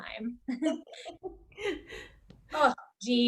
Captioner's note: Lydia and Alice laughing